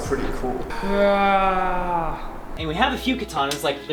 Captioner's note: roars mildly